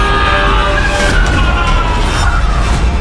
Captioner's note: screaming